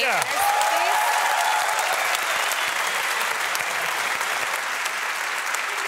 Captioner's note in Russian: публика аплодирует